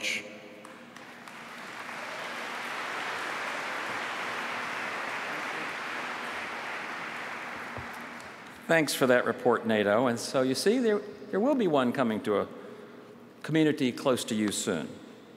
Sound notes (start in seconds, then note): 7.2 applause